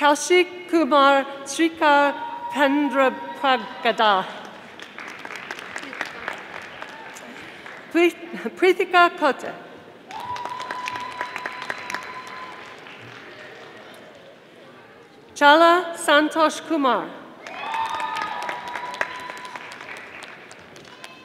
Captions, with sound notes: Kalshikumar Tsvrinkov Pendrobpagata, (audience applauding), Kritika Pota, (audience applauding) Challah Santosh Kumar. (audience applauding)